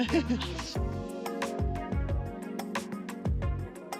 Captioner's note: upbeat music; laughs